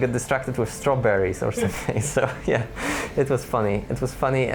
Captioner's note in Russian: смеётся